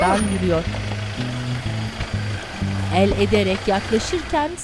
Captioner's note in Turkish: Araba sesi